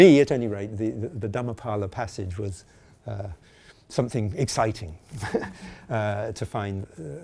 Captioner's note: chuckling